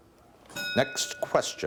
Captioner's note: bell dinging